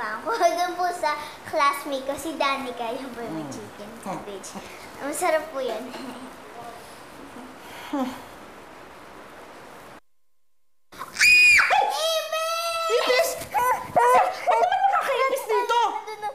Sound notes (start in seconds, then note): 11.0 screams; 13.5 Anne groaning